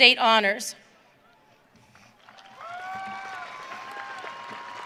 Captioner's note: audience cheering